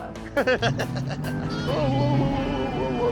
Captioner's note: laughs, car accelerates